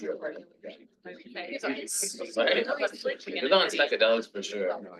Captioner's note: people chattering